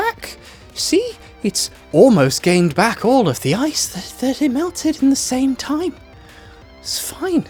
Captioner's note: breathlessly